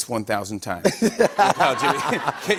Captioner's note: laughter